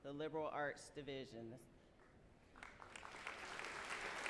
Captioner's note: applause